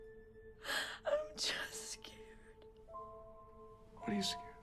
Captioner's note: sobs